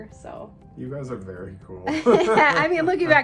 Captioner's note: laughs